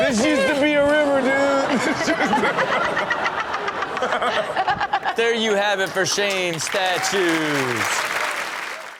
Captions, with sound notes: This used to be a river dude. (everybody laughs) - There you have it for Shame Statues. (audience clapping)